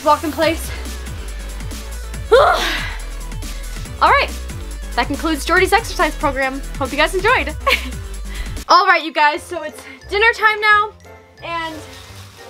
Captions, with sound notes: Walk in place. (sighs) Alright, that concludes Jordan's exercise program. Hope you guys enjoyed. Alright, you guys, so it's dinner time now and I